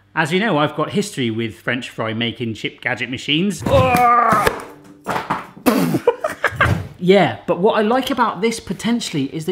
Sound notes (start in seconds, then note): 3.6 struggling noise